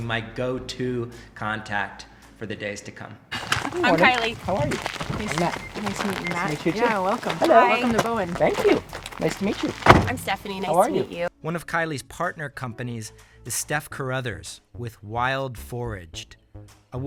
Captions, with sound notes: my go to contact for the days to come. Good morning. - I'm Kiley. - How are you? I'm Matt. - Nice to meet you Matt. - Nice to meet you too. - Yeah welcome. - Hi. - Welcome to Bowen. - Thank you, nice to meet you. (car door closing) - I'm Stephanie, nice to meet you. - How are you? One of Kiley's partner companies is Steph Carruthers with Wild Foraged.